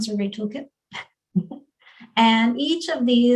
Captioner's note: chuckles